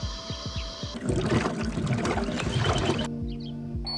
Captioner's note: glug glug glug